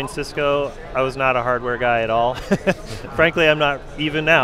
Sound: laughs

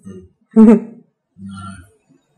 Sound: chuckling

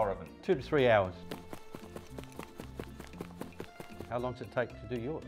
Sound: feet tapping

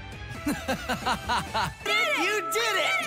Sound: laughing

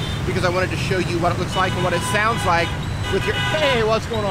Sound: horns honking

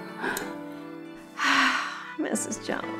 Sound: sigh

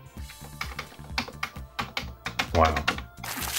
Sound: keypad tapping

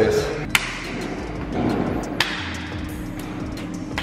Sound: loud hand dapping

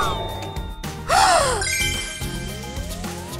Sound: gasps

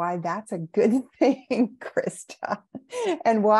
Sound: chuckling

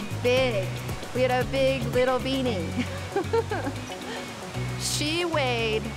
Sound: chuckles

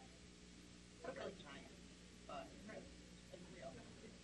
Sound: crowd murmurs

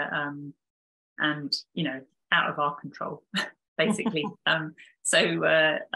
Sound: both chuckling

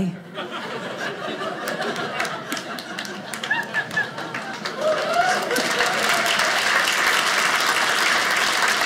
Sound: audience cheering

